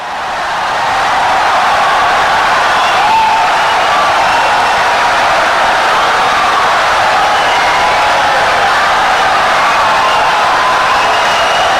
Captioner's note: wild applause and cheering for 17 seconds